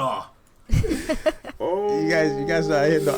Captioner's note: laughter